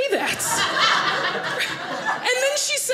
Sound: audience laughing

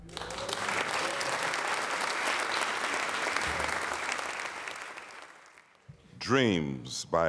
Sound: applause

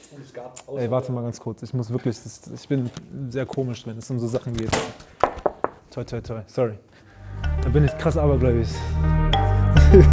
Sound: knocks on wood

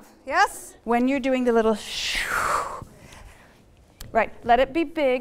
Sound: exhaling

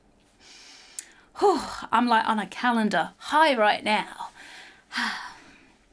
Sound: exhales

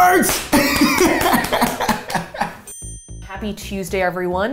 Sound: laughs

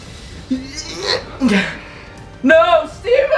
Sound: grunting

